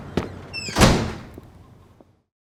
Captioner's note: door slams